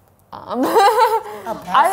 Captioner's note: laughs